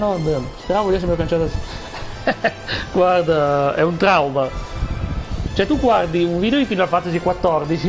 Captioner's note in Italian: risate